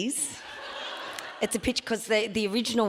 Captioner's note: audience laughs